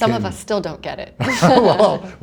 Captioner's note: laughter